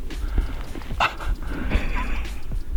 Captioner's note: laughs